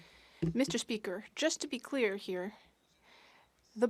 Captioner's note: speaking French